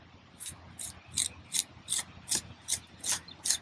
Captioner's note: scraping